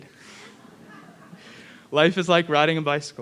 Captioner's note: audience laughing